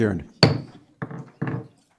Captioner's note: gavel strike